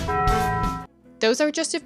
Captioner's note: bell dings